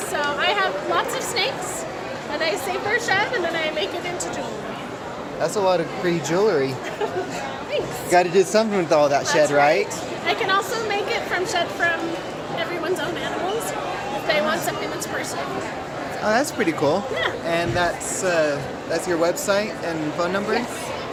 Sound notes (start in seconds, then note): 6.8 giggle